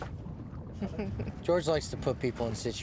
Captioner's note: Cecile chuckles